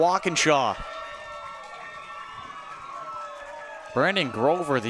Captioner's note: cheering